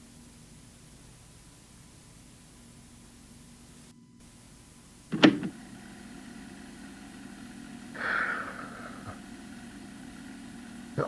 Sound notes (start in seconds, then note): 5.0 tape Starts; 7.9 breathes Shakily